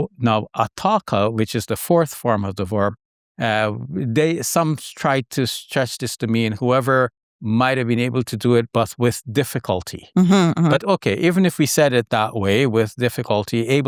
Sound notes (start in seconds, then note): 10.2 hums